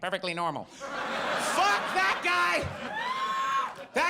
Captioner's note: audience laughs